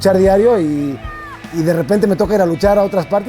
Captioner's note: crowd cheering